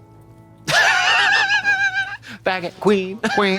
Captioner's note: Katya wheezes